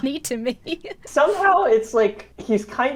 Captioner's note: laughs